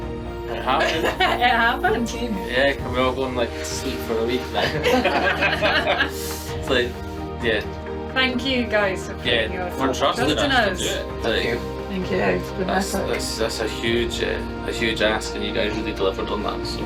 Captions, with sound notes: - It happened. - It happened? - Yeah, can we all go and sleep for a week now. (laughing) - It's like, yeah. - Thank you guys for putting your trust in us. - Thank you. - Thank you. - That's a huge ask, and you guys really delivered on that.